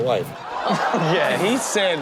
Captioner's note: audience laughs